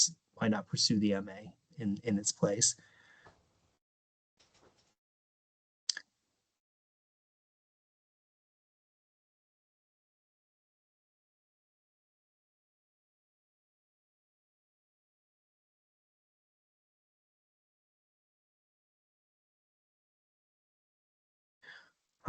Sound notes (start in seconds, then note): 2.8 pause 19 seconds